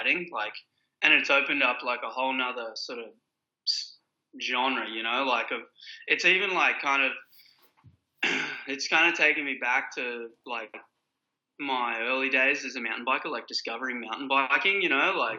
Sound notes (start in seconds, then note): 8.2 clears throat